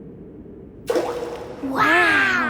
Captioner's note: rock plops